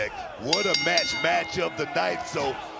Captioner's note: bell rings